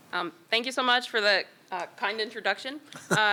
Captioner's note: laughter